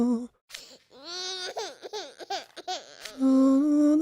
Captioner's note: crying